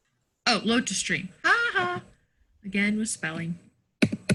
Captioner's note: chuckles